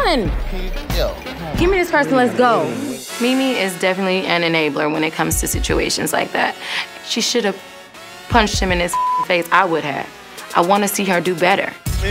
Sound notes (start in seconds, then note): 8.9 beep